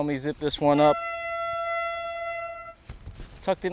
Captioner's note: train horn